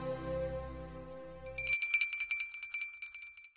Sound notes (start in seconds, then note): 1.4 bell ringing